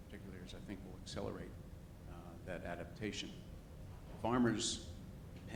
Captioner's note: speaks faintly